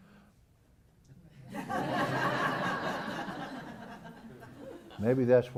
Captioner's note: laugh